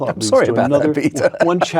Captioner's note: laugh